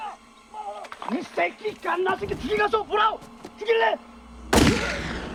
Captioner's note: yelling Continues; yelling in Korean; shot Echoes